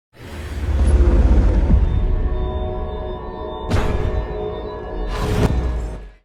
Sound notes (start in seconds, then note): 0.2 dramatic music; 3.8 metal clanging